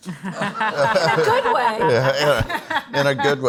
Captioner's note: all laugh